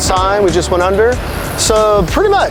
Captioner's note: board zips